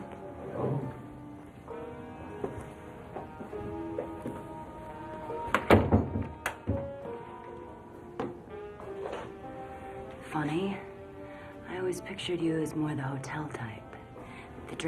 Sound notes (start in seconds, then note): 2.5 gentle music; 5.6 door clatters; 6.2 gentle music